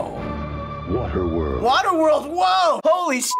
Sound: voice-over

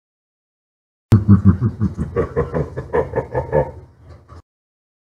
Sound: evil laugh

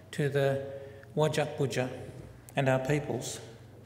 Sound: foreign word spoken

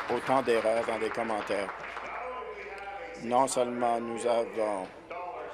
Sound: applause

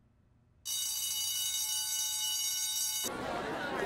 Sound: bell rings; indistinct chatter

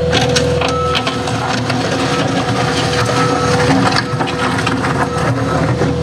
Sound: reverse signal beeping

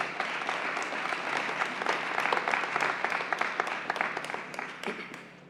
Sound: applause

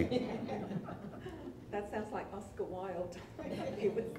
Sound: audience laughs

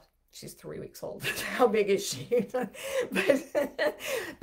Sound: laughs

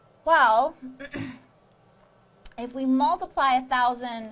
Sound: clears throat

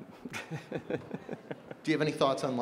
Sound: Bill laughs

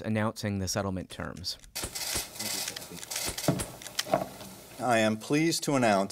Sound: cameras clicking

